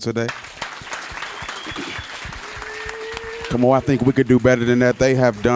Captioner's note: applause